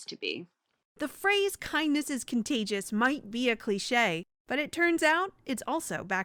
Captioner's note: voice-over